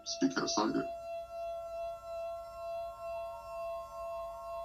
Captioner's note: ominous ringing